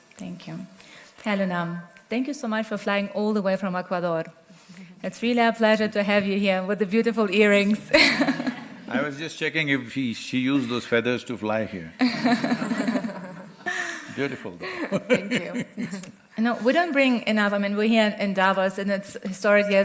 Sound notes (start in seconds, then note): 7.9 laughs; 14.5 laughs